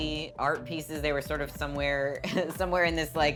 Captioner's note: laughing